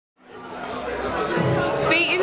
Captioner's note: crowd chattering